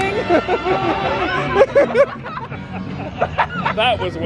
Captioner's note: all laughing